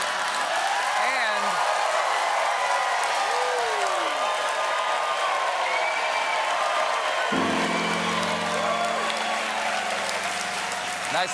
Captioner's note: applause